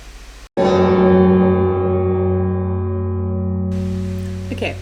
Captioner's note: very loud bell noise